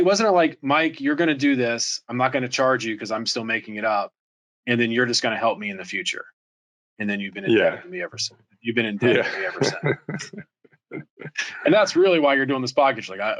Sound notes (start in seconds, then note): 9.0 laughs